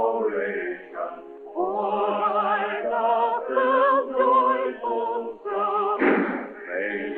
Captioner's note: gunshots